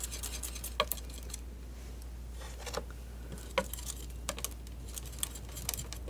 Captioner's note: scratching